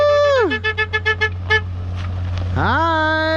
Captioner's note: car honking